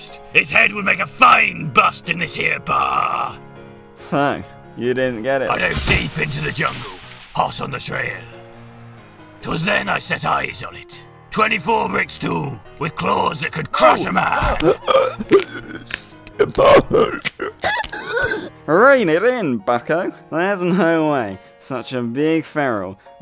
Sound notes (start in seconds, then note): 5.5 music gets less cheery again; 14.4 bones breaking painfully; 14.6 desperate choking gasps; 16.3 crunch; 16.3 bones breaking painfully; 17.5 one last squeal